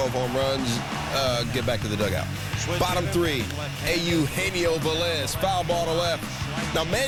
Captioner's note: crowd booing and cheering